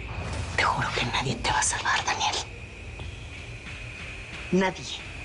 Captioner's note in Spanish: Susurra